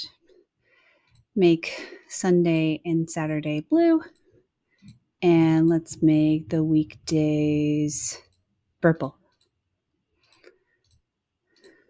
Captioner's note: clicking mouse